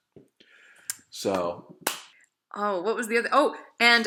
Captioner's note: both hands clap